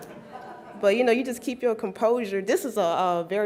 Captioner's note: laughs